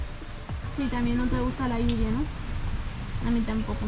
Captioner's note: in Spanish